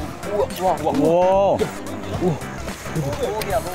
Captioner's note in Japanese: 牛肉を見てどよめく練習生